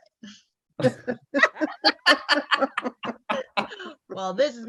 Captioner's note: all Uteri laughing